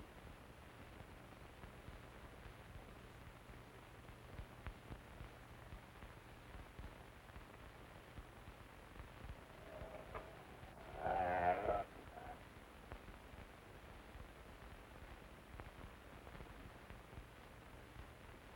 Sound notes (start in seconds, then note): 9.3 wolf growls